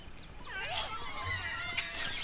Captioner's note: monkeys chattering